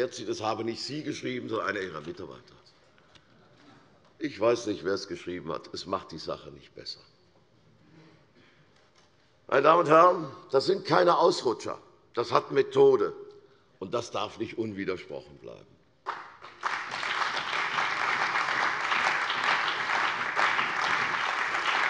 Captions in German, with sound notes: das habe nicht sie geschrieben, sondern einer ihrer Mitarbeiter. Ich weiß nicht, wer es geschrieben hat, aber das macht die Sache nicht besser. Das sind keine Ausrutscher. Das hat Methode. Das darf nicht unwidersprochen bleiben. [Beifall bei der CDU und dem BÜNDNIS 90/DIE GRÜNEN]